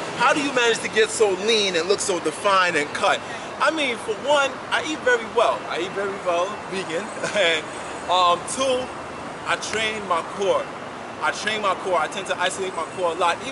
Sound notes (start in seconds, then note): 7.2 laughs